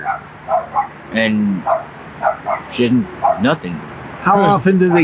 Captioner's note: chuckles